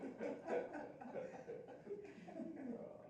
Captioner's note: all laughing